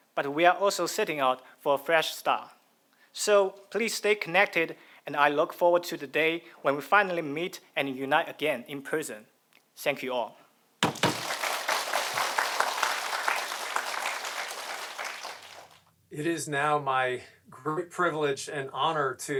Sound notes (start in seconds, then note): 10.8 audience applauding